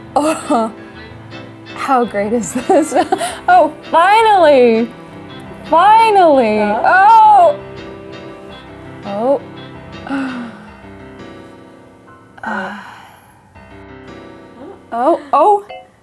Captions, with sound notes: Oh. How great is this? Oh, finally. Finally. Oh! Oh. [SIGHING] Oh. Oh!